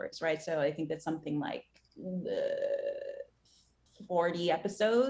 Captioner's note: groans